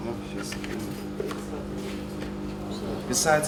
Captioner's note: machines whirring